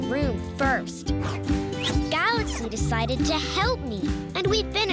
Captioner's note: wooshing